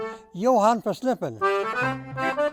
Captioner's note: plays accordion; speaking in swedish